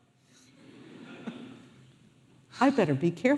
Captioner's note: audience laughing